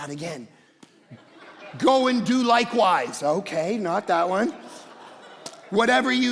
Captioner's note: congregation laughing